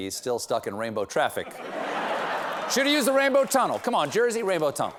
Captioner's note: laughter